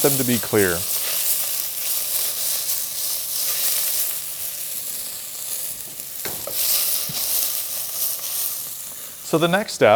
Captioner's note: pan sizzling